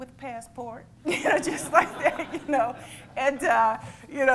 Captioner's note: laughter